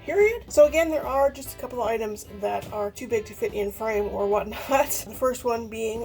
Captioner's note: laughs